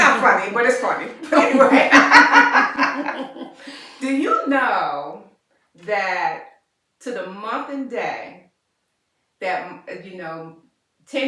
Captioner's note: laughter